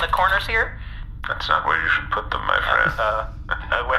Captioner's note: Kiarondo laughs mysteriously